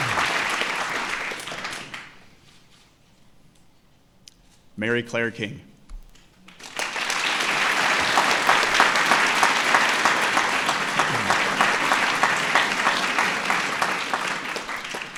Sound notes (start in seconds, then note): 6.4 applause